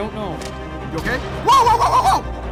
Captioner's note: screams